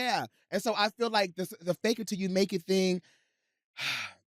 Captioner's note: sighs